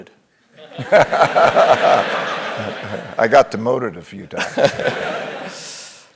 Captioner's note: laugh